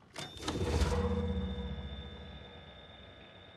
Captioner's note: machine thrums